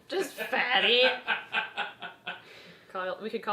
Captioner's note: laughs